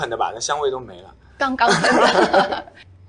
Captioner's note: hahahaha